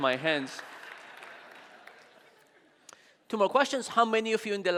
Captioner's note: audience laughing